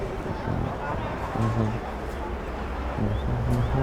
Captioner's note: hums